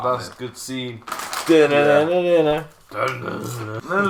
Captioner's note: Doritos bag rustling in the background